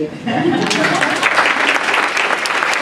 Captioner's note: applause